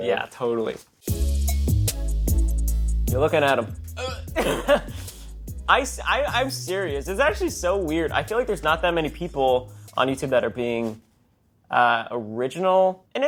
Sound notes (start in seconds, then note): 1.4 hip hop music continues; 4.0 laughs